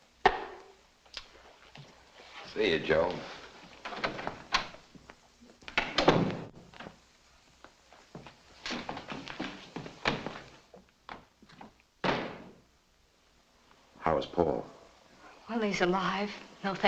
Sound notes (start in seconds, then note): 5.8 door thuds shut; 12.0 outer door bangs shut